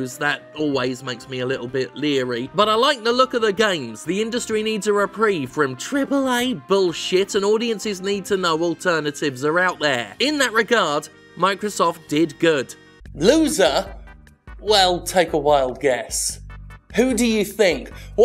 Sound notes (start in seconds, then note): none